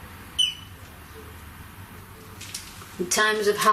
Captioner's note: beep